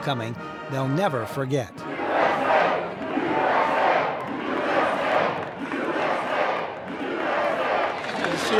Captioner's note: crowds cheering, music playing, people chanting USA